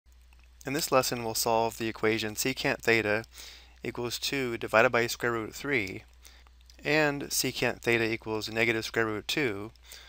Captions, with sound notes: [Voiceover]- In this lesson we'll solve the equation secant theta equals two divided by square root of three and secant theta equals negative square root of two